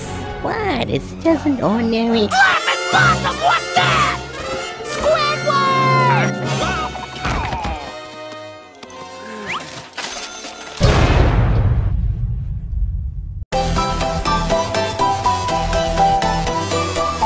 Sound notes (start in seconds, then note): 4.9 groans; 9.9 cash register dings; 13.5 upbeat music plays